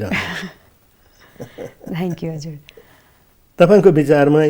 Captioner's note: both laughing